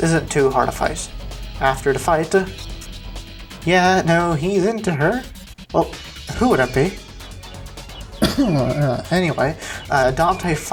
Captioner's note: ahem